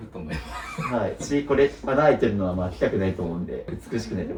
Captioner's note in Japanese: 笑い